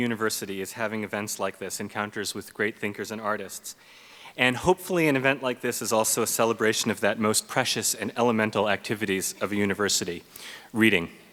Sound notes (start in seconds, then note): none